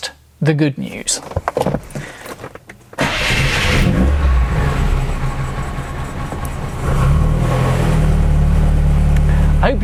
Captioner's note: starts car